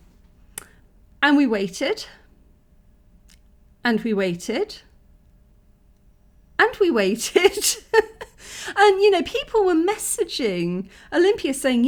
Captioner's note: laughing